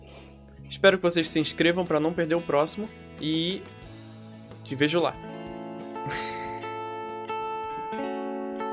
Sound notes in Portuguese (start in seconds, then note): 6.0 risos